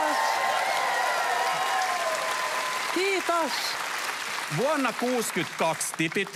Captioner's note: applause